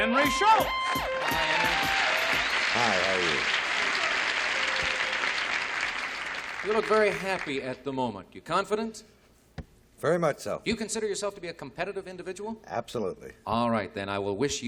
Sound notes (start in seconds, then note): 3.9 applause